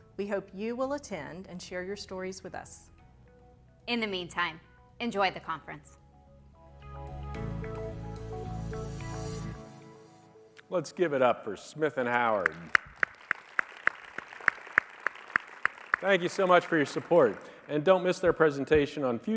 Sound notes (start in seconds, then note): 7.4 light music; 12.3 audience applauding